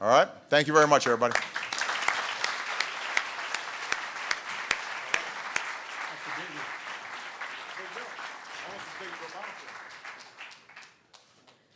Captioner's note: applause